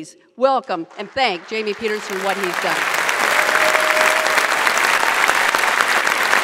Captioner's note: audience applauds